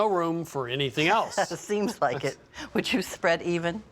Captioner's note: laughs